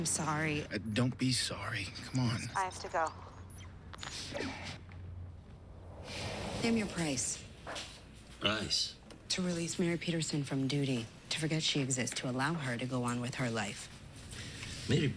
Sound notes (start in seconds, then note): 5.2 sighs; 7.3 russian accent